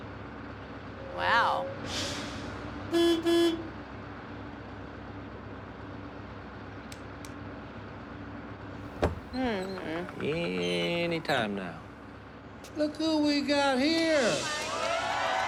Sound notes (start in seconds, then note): 2.9 horn sounding